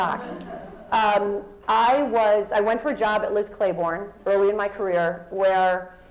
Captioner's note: laugh